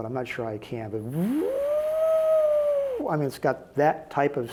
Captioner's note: mimics drill sounds